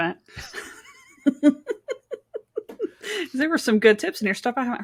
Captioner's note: laughing